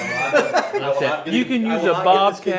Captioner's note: laughter